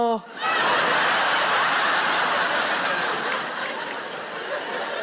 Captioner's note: audience laughing